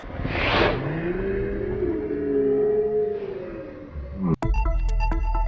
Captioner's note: laughing in slow motion; bubbly music